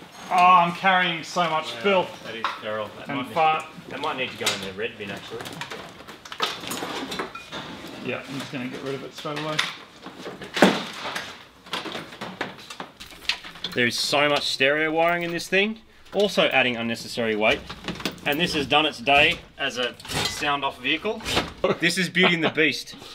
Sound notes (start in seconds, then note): 5.4 clattering; 10.6 thuds; 19.8 clattering; 21.6 laughs